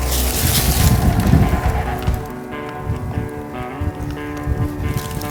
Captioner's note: wind blowing